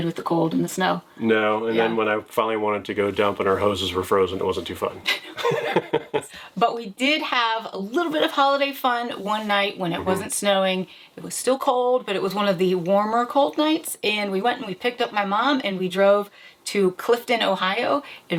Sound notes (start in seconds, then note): 5.1 both laughing